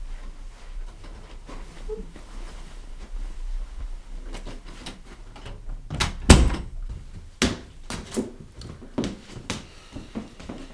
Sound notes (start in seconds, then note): 5.4 door closes